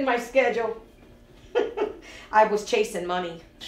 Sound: laughing

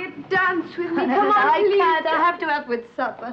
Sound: chuckles

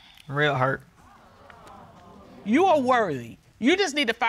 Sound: audience exclaiming

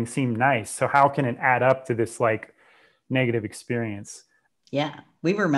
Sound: breath

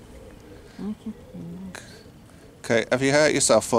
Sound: mumbles

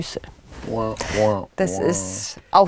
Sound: disillusioned noises

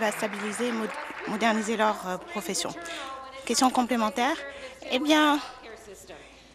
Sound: applause

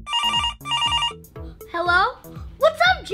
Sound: phone ringing

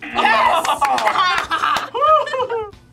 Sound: both laugh

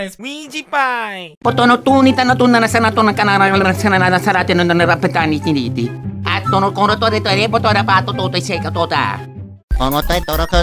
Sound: more italian gibberish

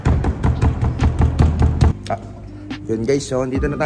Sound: more knocking; still knocking

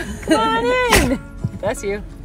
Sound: dog sneezing

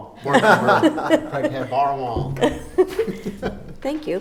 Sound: various people laughing

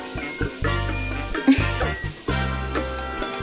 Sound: laughter

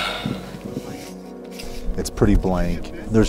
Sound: exasperated sigh; wind blowing; scraping rock

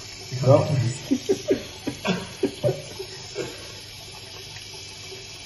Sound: chuckles

